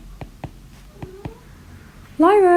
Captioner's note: cat meowing